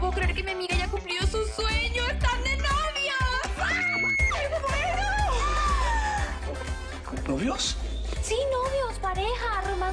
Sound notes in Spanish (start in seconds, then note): 3.8 Grita